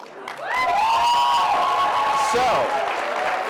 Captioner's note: cheering